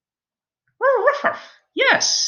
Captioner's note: Alien Space Doggy barking